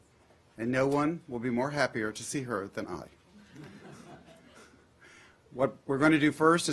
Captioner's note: laughter